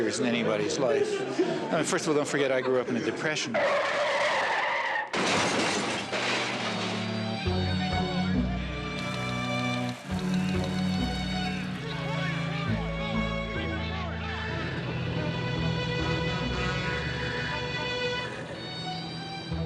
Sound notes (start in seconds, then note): 3.5 tires squealing; 5.1 objects clattering; 7.6 sentimental music; 10.8 typewriters clacking